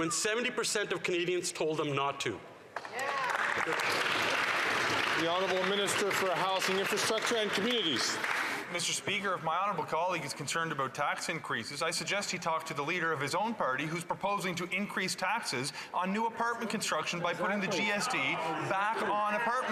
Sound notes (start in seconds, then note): 8.3 some Applause